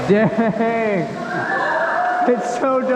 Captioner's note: whistling